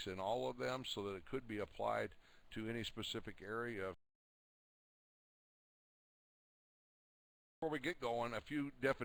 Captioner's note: audio drops